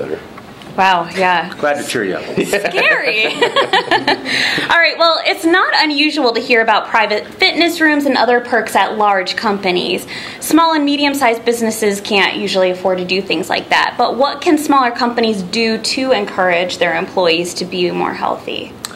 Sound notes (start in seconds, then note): 2.3 laughing